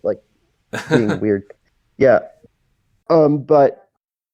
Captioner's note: laughs